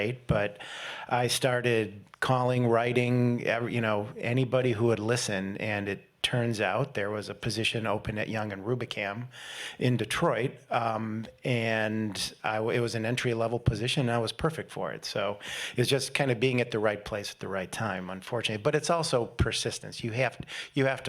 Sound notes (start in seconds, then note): none